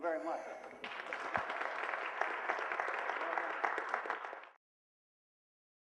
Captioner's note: applause